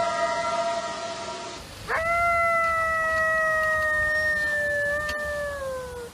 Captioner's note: eerie howl; coyote howls